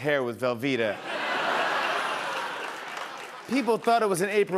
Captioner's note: laughter